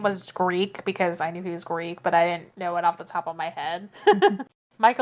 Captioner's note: laughs